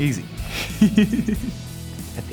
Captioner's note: laughs